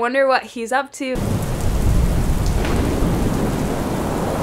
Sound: rain falling

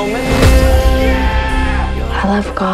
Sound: scream

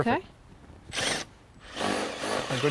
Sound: drill whirring, no additional audio

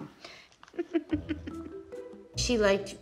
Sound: laughs

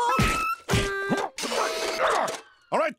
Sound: grunting

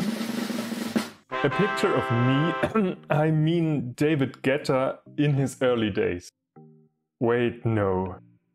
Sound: cough

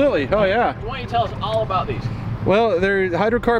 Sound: male Voice

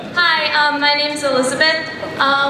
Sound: voiceover

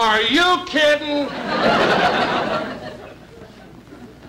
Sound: audience Laughing

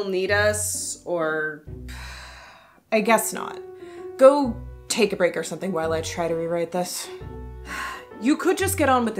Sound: sigh

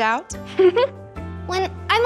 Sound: girls giggles

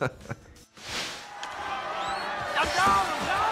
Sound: crowd cheers

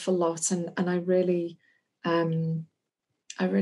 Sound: none

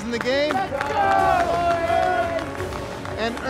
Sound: cheering and yelling

